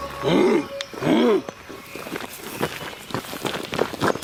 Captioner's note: Og grunting; gravel crunching